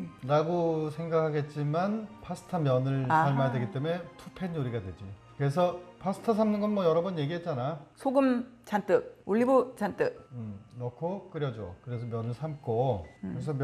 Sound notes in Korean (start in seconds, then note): 3.0 아하~!!